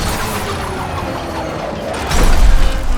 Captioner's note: crowd cheering, applauding